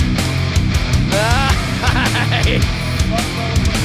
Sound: fast-paced rock music; laughs

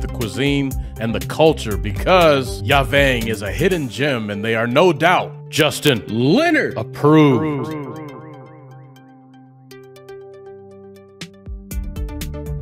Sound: echos

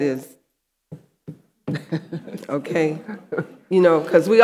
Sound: fingers tapping

